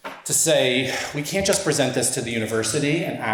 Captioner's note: huffs